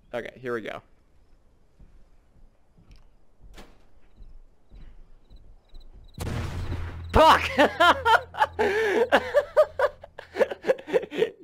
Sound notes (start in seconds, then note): 6.2 explosion